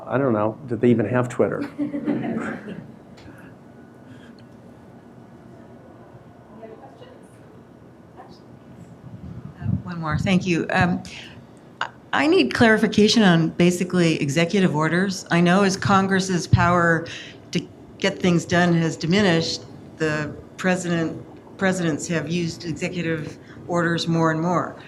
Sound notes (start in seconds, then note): 1.7 audience laughing; 7.1 audience member speaking quietly